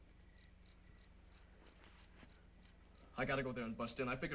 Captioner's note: insects chirping